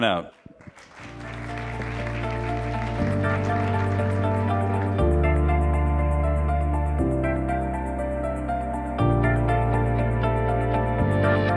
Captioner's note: applause